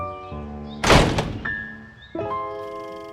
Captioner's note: door slams